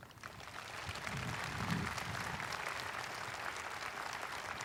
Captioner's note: audience applauding